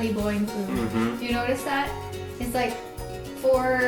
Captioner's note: humming